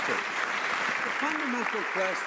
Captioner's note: some Applause